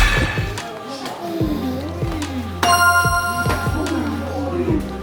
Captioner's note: bell dings; bell dings